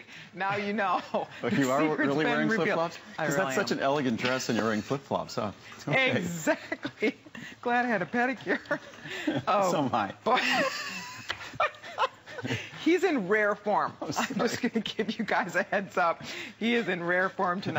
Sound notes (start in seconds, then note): 6.2 laughter; 13.1 laughter